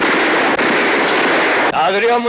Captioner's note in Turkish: Silah sesleri